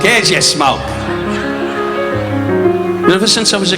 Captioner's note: audience laughing